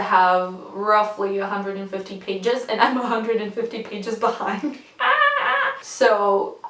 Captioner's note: incoherent Screaming